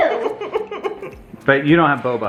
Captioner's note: chuckles